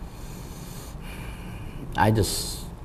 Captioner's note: inhales